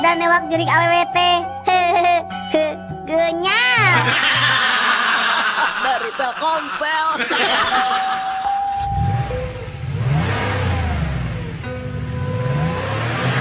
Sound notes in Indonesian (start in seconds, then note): 8.3 tertawa